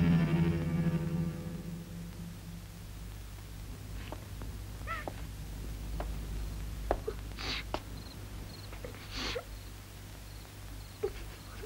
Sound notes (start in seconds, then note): 4.8 crying